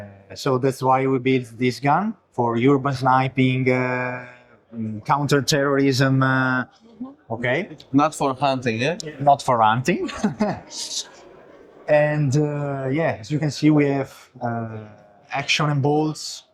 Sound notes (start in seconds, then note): 9.9 laughs